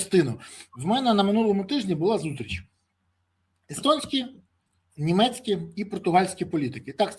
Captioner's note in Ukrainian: сопіння